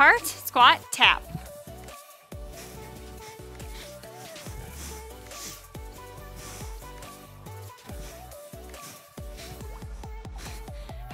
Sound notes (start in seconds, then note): 1.4 breathes; 1.8 soft upbeat music